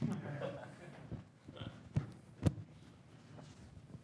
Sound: laughing

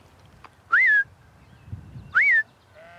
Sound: whistle

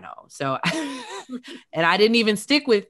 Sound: chuckles

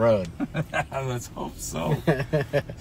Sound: chuckles

